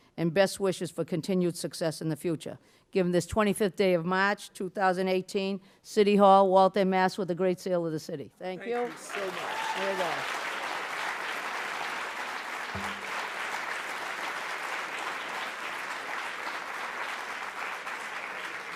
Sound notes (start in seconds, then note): 9.3 audience applause